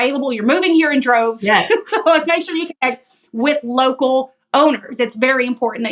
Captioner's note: laugh